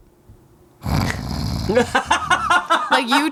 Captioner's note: vocalizes; imitates snoring; laughs